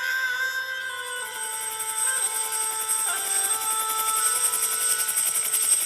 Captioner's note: static buzzing